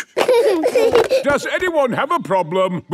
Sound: giggling

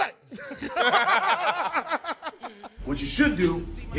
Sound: laughing

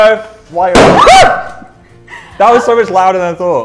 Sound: screams

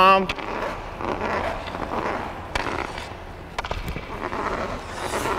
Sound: skates rubbing; hockey stick scraping

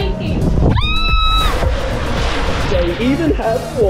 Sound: screaming

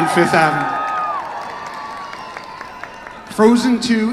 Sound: audience cheers

